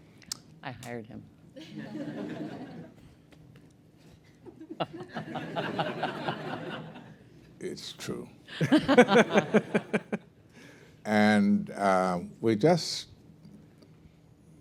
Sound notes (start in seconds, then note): 1.3 laughter; 8.5 laughter